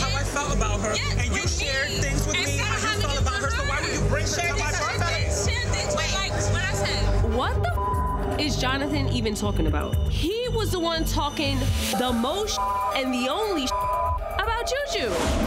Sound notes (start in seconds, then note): 5.4 group arguing; 7.6 beep; 11.9 beep